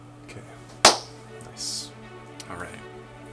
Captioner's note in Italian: clap